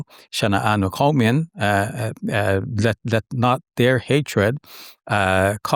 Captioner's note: speaking in foreign language